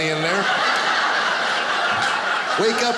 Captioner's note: audience laughing